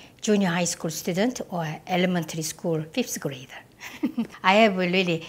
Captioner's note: laughs